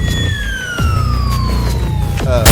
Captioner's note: bomb falling